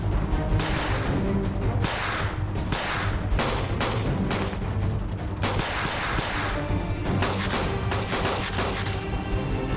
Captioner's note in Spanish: Disparos